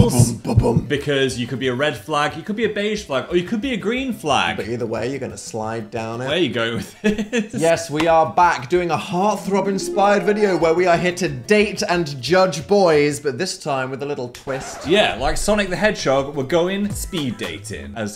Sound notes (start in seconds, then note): 6.8 laughs; 9.4 romantic music; 14.5 record scratches